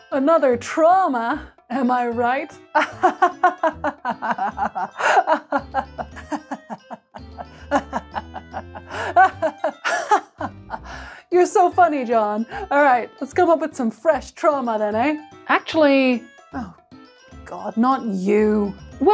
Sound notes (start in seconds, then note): 2.8 laughter signifying agreement